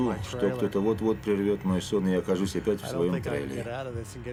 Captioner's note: laughs